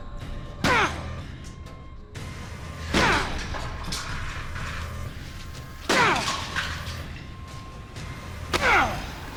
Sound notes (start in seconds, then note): 3.1 grunting